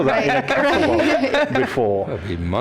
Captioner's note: laughter